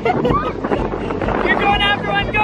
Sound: laughter

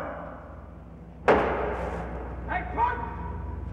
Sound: wood clacks

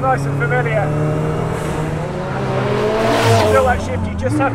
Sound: car engine roars

